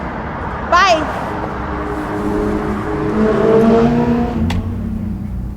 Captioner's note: car engine whirring